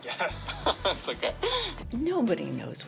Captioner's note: laughter